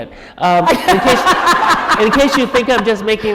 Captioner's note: chuckle